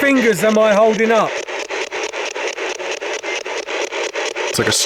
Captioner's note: static ticking